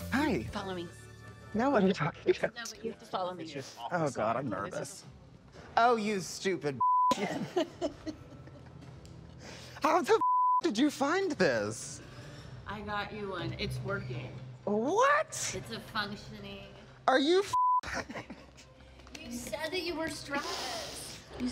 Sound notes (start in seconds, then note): 7.2 laughs; 7.2 beep; 17.5 beep